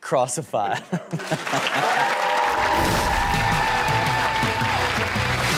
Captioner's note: audience laughs and cheers